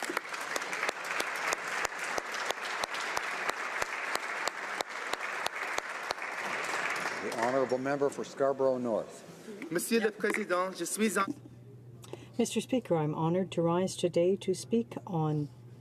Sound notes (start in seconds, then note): 5.1 applause